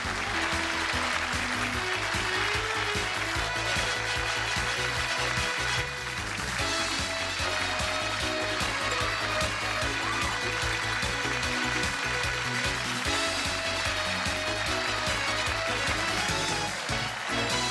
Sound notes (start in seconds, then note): 5.9 upbeat music; 12.7 applause